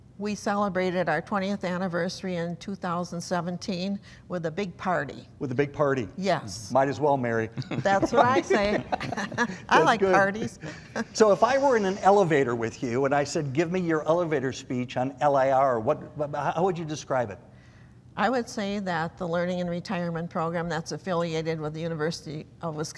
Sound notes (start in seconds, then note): 7.5 laughing